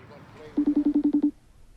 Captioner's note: ring beeps